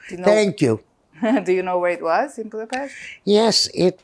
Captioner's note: laughing